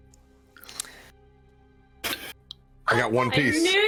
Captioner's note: shocked breaths